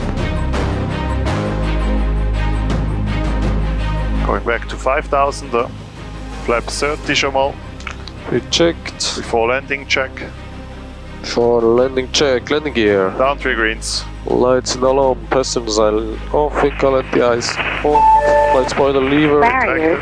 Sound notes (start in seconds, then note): 0.2 intense music; 4.7 speaking in foreign language; 13.3 speaking in foreign language; 19.8 speaking in foreign language